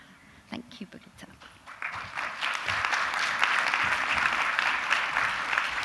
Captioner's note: audience applause